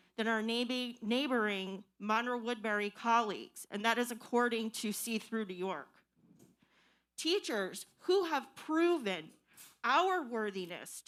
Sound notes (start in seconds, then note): none